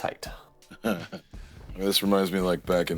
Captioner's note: laughs